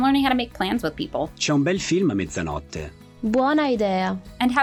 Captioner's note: speaking Italian